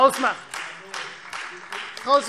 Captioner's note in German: Beifall Freie Demokraten